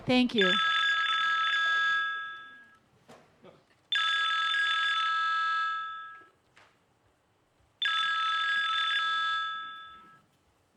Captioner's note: phone ringing